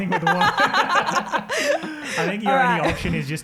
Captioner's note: all laughing